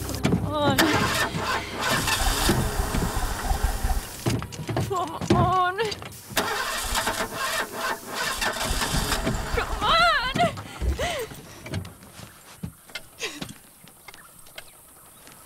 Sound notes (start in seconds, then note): 6.7 Cranking; 11.4 Sobs; 13.5 Crying